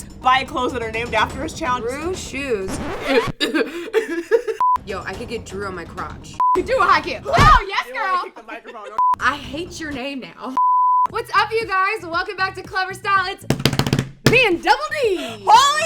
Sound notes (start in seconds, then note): 2.6 record scratch; 3.0 laughs and coughs; 4.6 beep; 6.4 beep; 7.3 laughs; 9.0 beep; 10.6 beep; 13.5 drumroll